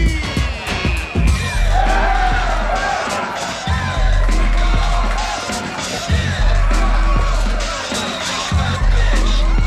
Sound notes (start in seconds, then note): 1.9 crowd cheers; 4.3 thumping hip hop beat